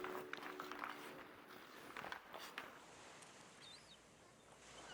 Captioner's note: gentle music; blades scraping